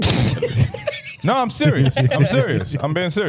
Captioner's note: laughing